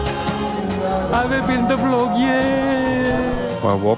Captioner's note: non-english speech